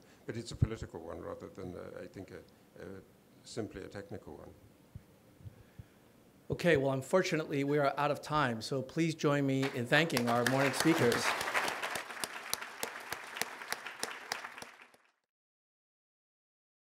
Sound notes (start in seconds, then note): 9.6 applause